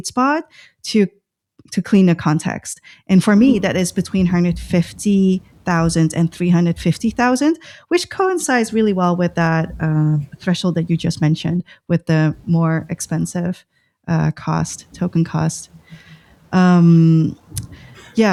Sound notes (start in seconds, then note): 14.6 uh; 17.5 laughter